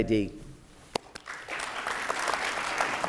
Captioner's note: applause